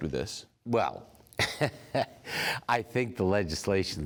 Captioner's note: chuckles